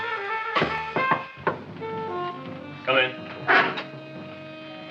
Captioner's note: Frank knocking